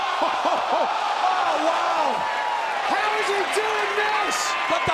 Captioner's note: crowd chatter